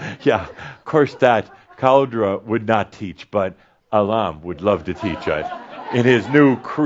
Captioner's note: laughter